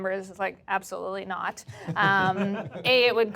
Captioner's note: group laughing